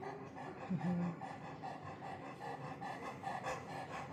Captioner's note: panting